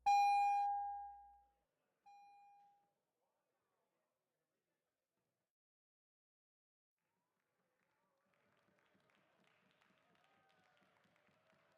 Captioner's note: dinging